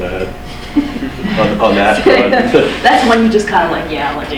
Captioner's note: laughs